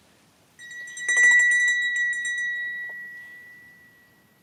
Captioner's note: tinkling of a bell